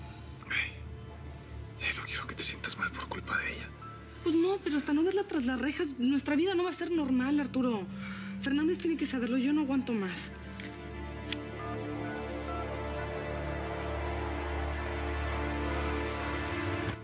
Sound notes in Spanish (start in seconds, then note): 12.1 sonido al marcar